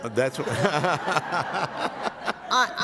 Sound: laughter

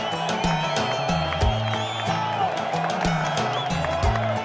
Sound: cheering

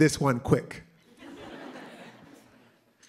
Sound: laughter

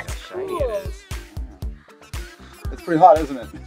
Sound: voiceover

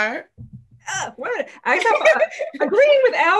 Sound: people laughing

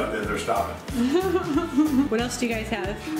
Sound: laughing

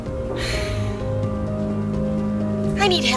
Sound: tense music; sighs

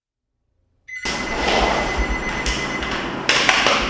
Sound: phone's ringing

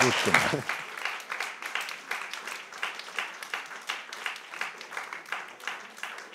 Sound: applause

